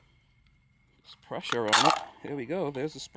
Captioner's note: spring popping